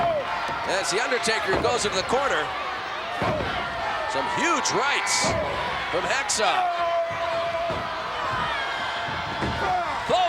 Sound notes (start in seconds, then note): 6.7 Hacksaw yelling; 8.5 crowd yelling